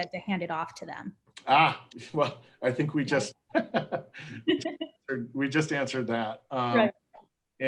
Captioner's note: laughs